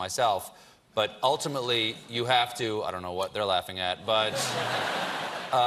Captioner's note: laughter